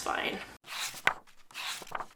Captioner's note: pages flipping